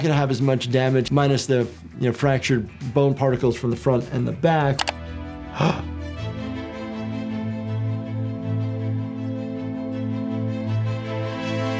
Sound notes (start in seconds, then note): 5.5 gasps